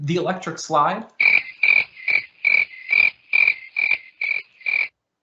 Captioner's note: chirping sound